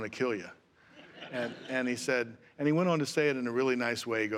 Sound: laughter

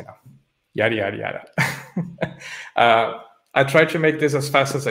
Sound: laughs

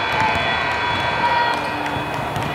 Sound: cheering

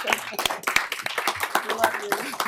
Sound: applause

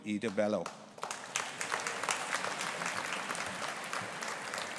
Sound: audience applauding

